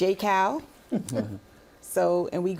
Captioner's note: chuckling